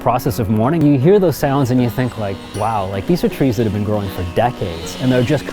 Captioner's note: chainsaws